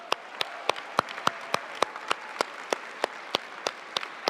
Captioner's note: audience applauding